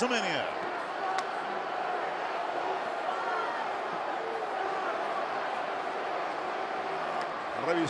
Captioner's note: applause